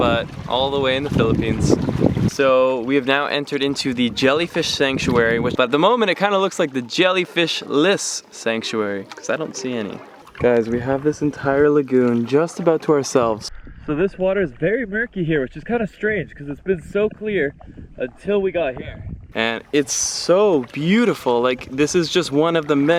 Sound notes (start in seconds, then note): none